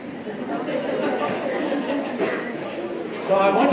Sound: laughter

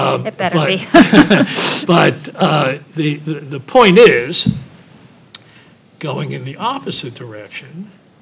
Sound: laugh

